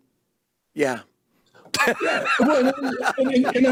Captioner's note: both laugh